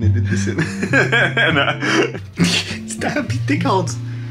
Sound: laughing

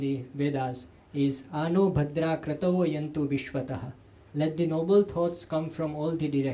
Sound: sanskrit

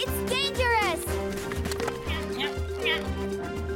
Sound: grunting

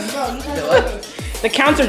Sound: deeply breathes

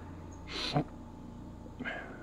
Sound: sniffles; grunts

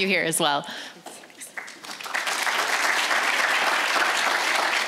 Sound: audience applauds

